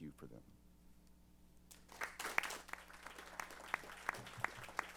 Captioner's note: applause